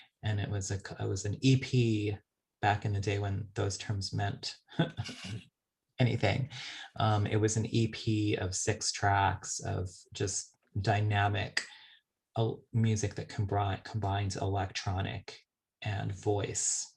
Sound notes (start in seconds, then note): 4.7 chuckles